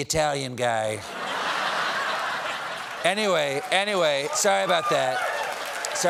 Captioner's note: laughter